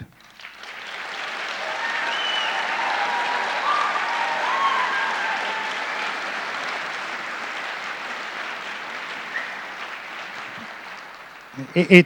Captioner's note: applause, cheering